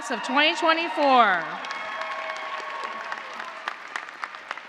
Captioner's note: cheers and applause